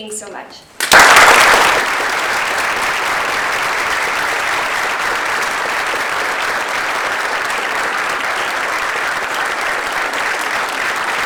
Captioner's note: applause